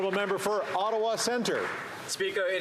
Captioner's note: some Applause